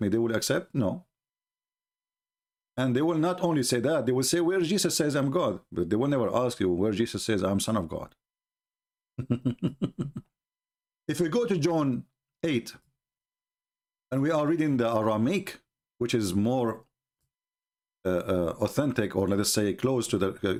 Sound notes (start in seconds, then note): 9.2 Ketawa